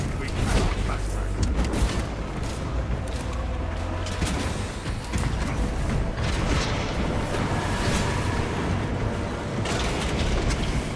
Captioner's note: gunfire